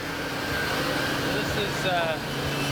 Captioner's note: machinery whirring